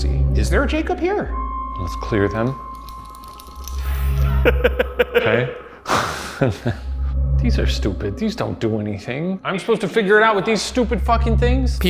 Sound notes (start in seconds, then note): 4.3 laughs